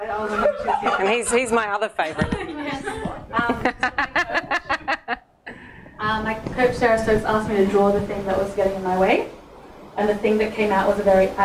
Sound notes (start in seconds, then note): 3.4 laughing